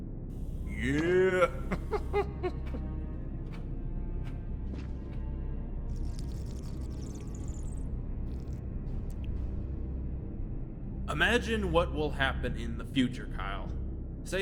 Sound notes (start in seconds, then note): 2.3 laughing; 5.9 Sargon slurping